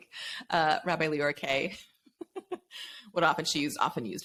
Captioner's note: laughs